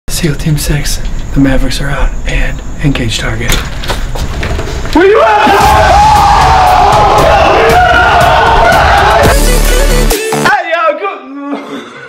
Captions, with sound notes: Seal team six, the Mavericks are out and engage target. WHERE YOU AT BRO? (yelling) Ayoo Good Mo...(cough)